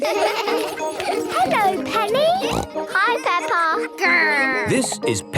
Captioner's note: laughter; snorting